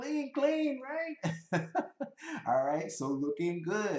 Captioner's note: laughs